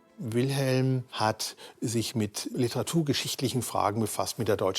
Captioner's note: speaking in foreign language